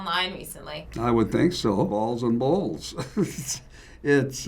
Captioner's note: chuckles